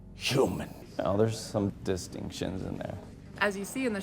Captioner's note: in normal voice